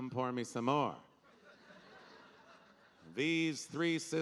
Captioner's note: audience laughing